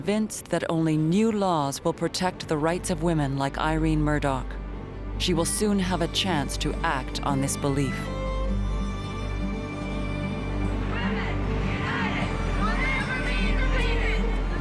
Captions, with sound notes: WILL PROTECT THE RIGHTS OF WOMEN LIKE IRENE MURDOCH. SHE WILL SOON HAVE A CHANCE TO ACT ON THIS BELIEF. [chanting] WOMEN UNITED, WILL NEVER BE DEFEATED.